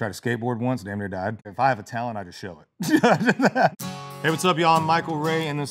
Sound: laughs

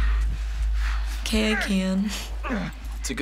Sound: Joel breaths sharply and groans

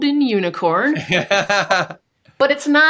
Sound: laughs

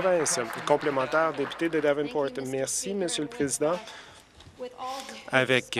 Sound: applause

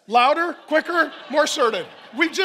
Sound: congregation laughing

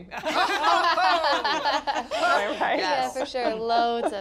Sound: laughing

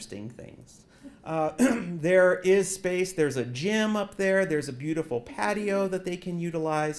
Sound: cough

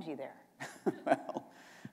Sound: chuckle

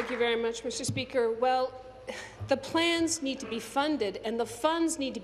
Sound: applause

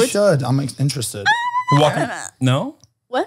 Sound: squeals

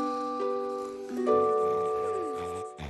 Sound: snores

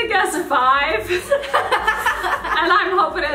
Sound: laughing

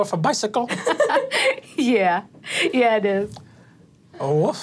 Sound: laughs

